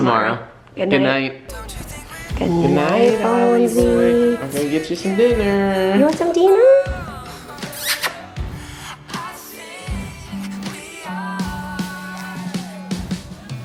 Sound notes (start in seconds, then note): 7.6 smooches